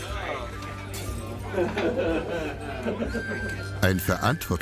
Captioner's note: impish laughter